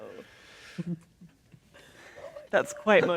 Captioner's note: quietly